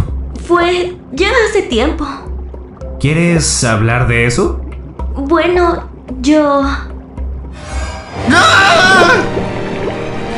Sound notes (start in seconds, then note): 8.2 Aiden screams